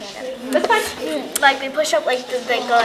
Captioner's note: chatter